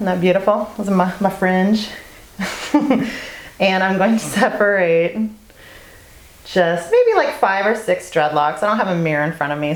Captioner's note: laugh